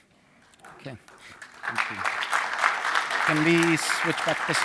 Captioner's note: applause